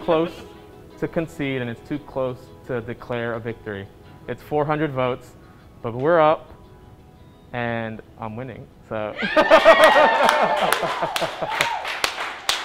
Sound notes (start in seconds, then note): 9.1 all cheering, laughs